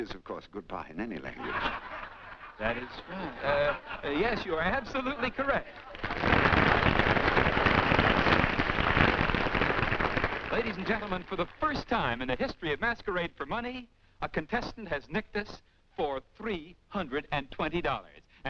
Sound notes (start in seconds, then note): 2.8 whispering